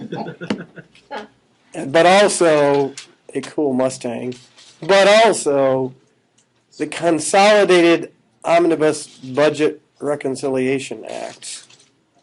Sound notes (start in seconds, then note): 0.0 aughing